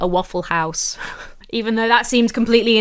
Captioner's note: laughs